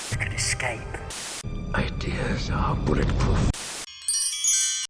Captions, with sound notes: Can escape! Ideas are bullet proof! *chimes*